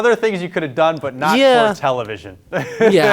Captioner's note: laughing